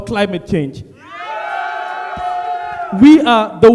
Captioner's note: audience cheers